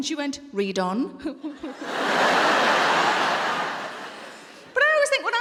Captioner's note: audience laughing